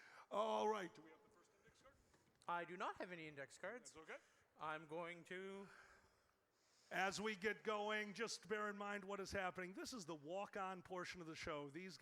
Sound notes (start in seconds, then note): none